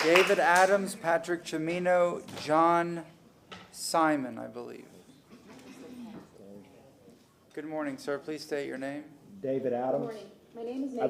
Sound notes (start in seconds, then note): 0.0 applause